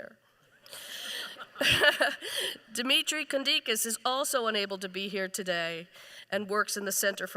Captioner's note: laughs